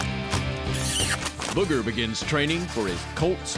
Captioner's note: smooch sound